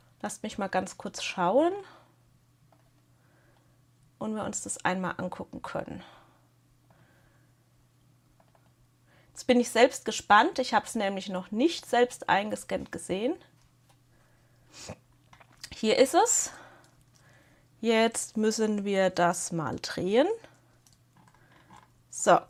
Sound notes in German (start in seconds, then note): 15.1 schnauben